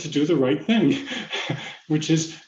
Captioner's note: laughs